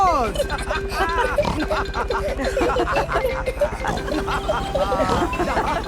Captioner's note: all laughing and snorting